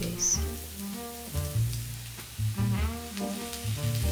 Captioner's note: sizzling